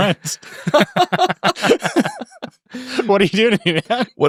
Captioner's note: laughing